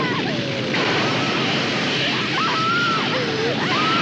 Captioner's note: whoosh; Lisa screaming, crying